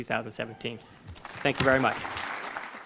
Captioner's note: audience applauding